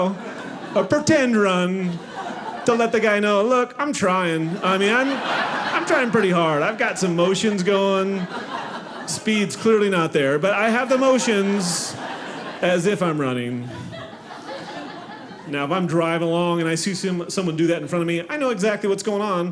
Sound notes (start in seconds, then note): 13.3 audience laughing